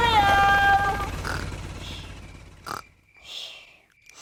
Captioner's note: baby alexander snoring